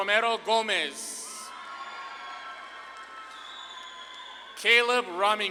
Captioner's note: audience claps and cheers